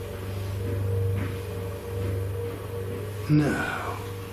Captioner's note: footsteps